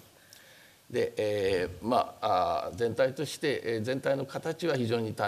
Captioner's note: speaking japanese